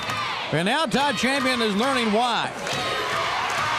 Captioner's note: crowd cheering